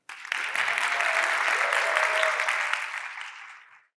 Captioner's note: audience applauding